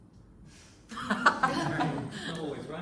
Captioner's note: laughter